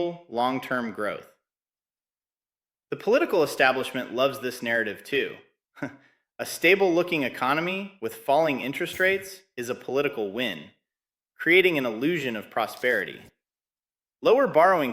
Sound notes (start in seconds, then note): 4.2 chuckles